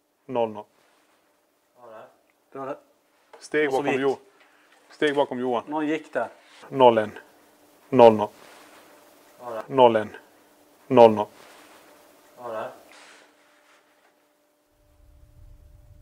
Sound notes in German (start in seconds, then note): 0.7 Schritte sind im Zimmer zu hören; 7.0 Schritte sind im Zimmer zu hören